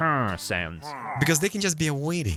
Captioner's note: pillagers hrmm-ing